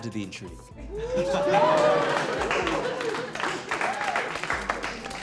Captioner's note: cheers and applause